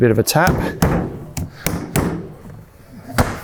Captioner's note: taps lid